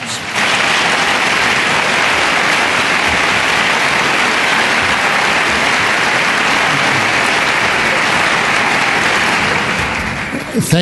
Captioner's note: applause